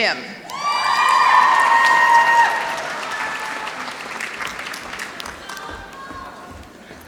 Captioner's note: applause